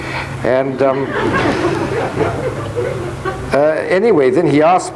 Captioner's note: audience laughing